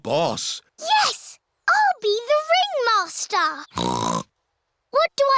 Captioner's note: snorts